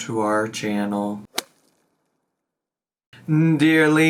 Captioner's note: logo thuds